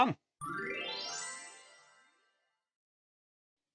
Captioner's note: twinkling reveal noise